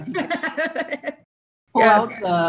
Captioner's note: laughing